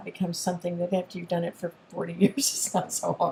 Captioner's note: chuckles